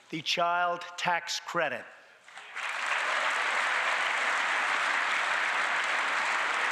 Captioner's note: applause